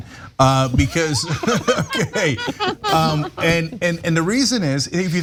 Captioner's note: laugh